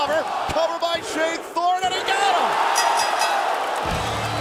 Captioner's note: bell ringing; crowd cheering